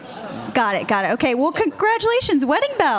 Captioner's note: audience laughter